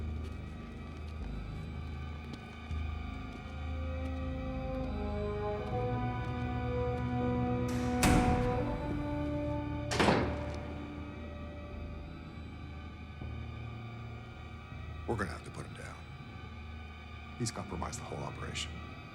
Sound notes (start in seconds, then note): 0.1 suspenseful music; 8.2 door clicks shut